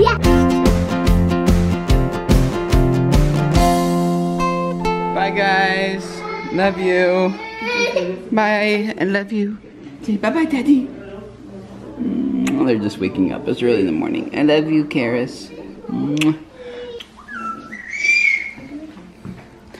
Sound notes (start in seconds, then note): 0.0 upbeat music; 7.4 cries